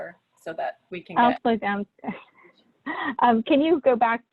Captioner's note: laughs